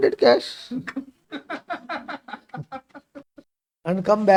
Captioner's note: laughs